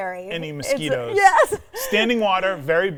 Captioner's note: giggling